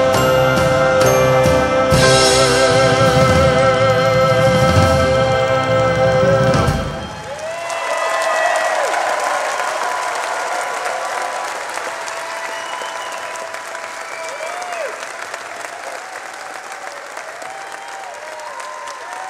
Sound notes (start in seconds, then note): 7.3 audience applauding; 7.3 audience cheering